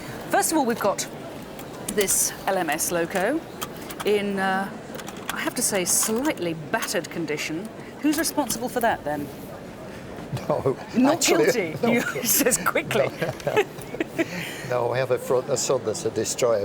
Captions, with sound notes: First of all, we've got this LMS loco in, I have to say, slightly battered condition. Who's responsible for that then? - (LAUGHS) No… - Not guilty, he says quickly! No, I have a son that's a destroyer